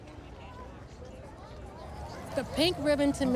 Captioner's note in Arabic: ثرثرة في الخلفية